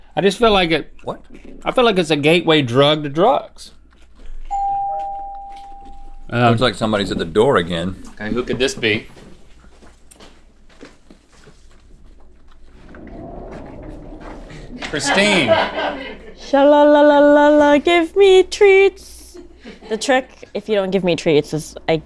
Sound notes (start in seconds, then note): 4.5 door bell chimes; 14.5 crew laughs